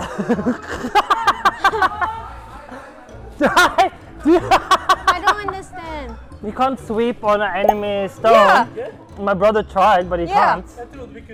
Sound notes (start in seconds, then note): 0.0 laughing